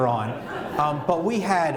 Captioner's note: laughter